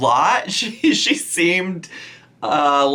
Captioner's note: chuckles